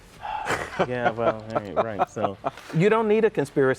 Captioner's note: laughing